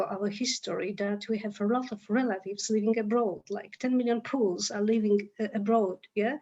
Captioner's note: Polish